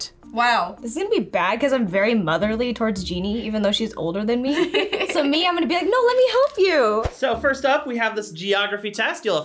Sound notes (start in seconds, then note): 4.5 laughs